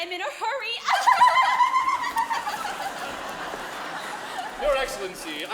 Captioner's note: girls laughing; audience laughs